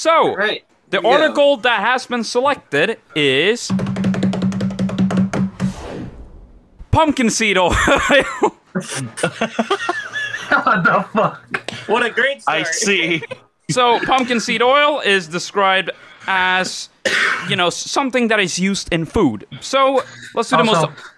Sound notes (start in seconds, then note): 7.6 group laughs; 10.5 laughing